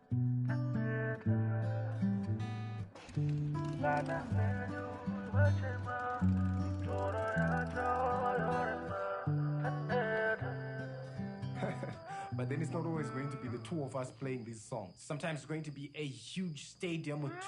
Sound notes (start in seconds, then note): 3.0 motorbike engine; 11.5 laughter